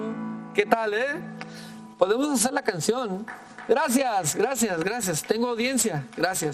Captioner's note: speaking in foreign language